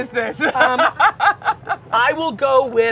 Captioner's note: laughing